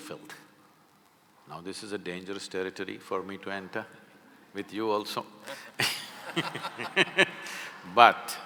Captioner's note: laughter